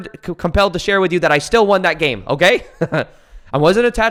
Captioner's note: laughs